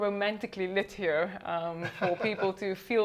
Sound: laughing

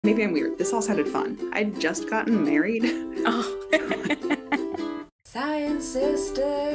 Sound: laughs

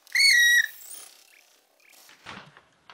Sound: cute guinea pig noises

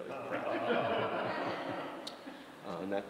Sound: audience laughing

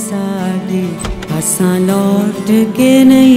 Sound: door opens

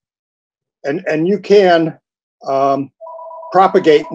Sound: phone rings

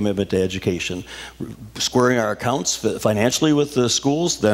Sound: none

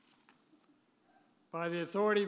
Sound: pages rustling

